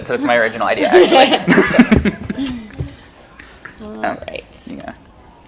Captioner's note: laughing